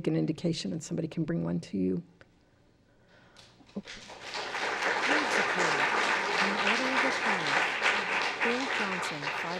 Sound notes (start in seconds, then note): 3.8 applause